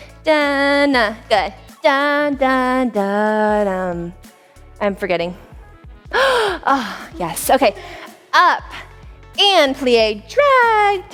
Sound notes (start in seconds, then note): 6.1 gasps